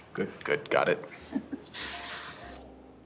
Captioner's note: Rachel chuckles